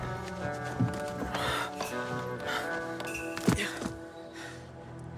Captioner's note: character panting